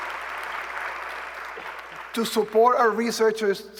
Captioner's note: applause